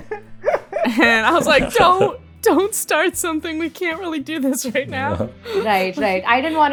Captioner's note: laughter; laughs